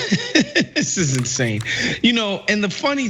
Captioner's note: laugh